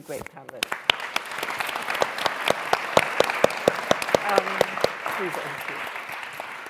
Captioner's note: applause